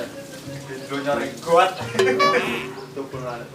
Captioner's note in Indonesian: haha